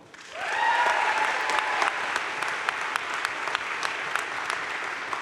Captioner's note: audience cheering and applauding